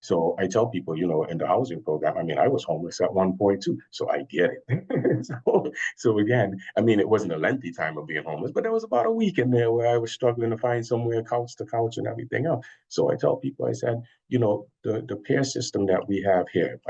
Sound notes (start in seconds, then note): 5.0 chuckles